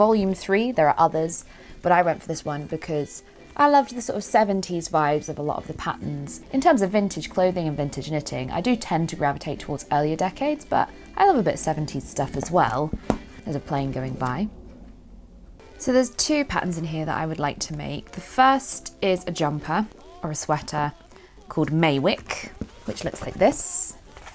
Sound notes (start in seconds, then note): 12.8 plane noises